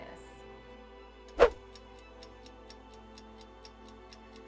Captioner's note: clock ticking